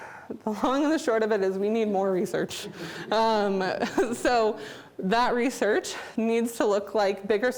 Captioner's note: audience Laughter